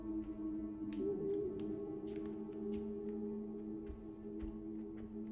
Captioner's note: light footsteps